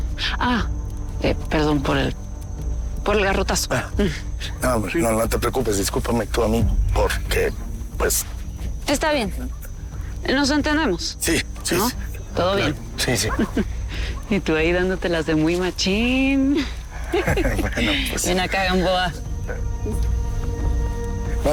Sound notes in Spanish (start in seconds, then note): 17.0 Risas